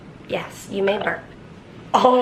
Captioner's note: burps